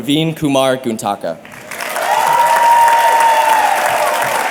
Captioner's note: applause and cheering